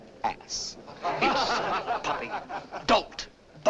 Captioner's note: laughter